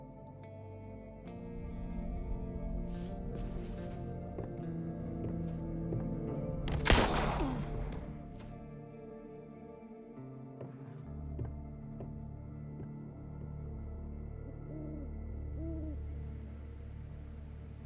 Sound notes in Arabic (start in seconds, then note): 0.0 موسيقى متوترة; 6.6 طلق ناري